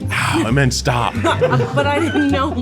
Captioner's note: crew chuckling